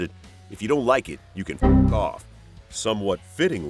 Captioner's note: sound effect